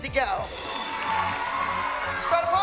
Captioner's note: cheering